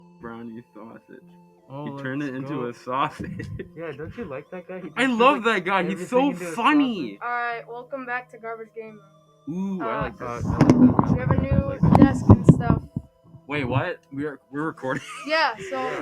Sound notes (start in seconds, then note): 10.0 random microphone moving sounds